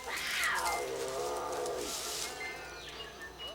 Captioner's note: growling